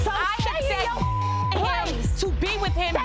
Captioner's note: beep